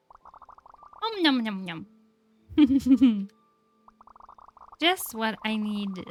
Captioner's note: laughs